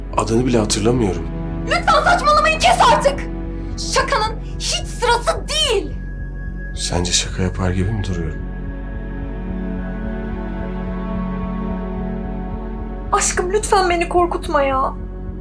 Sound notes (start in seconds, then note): 2.7 shouting